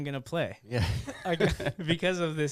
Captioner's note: laughing